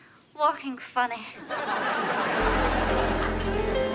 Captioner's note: audience laughs; jazzy piano music